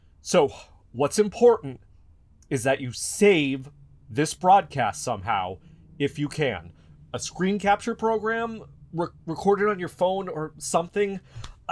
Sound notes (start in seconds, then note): none